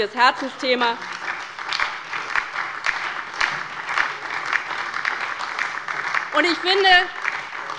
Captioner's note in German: Beifall bei der LINKEN und der SPD